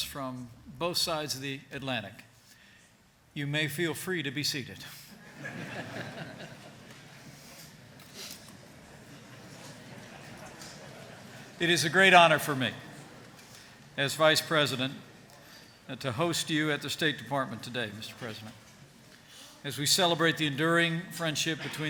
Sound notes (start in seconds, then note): 5.2 laughter